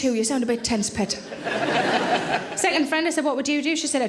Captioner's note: audience laughing